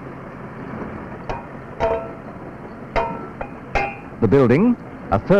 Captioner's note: sound of tools